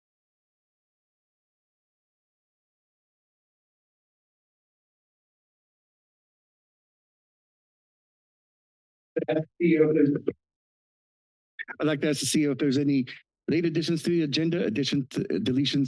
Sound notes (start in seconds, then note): 0.2 silence; 9.2 voice breaking up